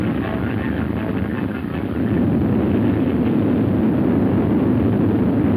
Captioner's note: landslide rumbling